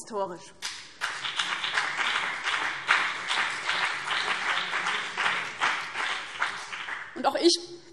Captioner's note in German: Beifall CDU und BÜNDNIS 90/DIE GRÜNEN